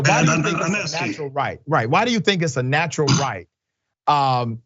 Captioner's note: cough